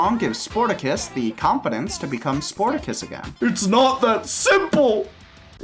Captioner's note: starts sobbing